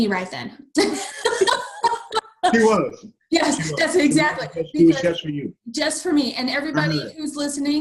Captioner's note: all laugh